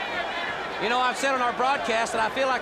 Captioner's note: crowd chatter